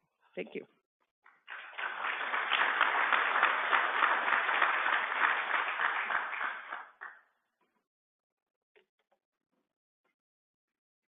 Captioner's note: applause